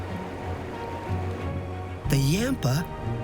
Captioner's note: river flowing